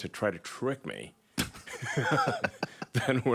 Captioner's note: joe rogan laughs